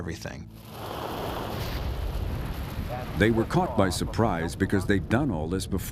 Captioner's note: engines roaring